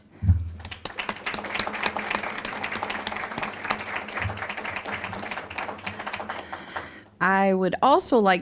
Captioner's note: applause